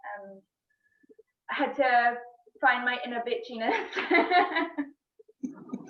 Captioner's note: laughs